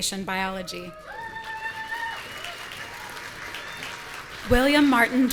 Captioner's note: audience cheering